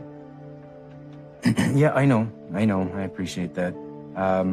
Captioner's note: clears throat